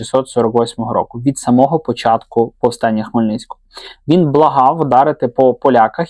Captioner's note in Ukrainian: сопіння